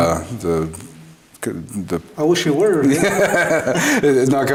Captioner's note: both laugh